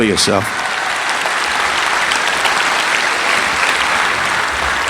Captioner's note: audience applauding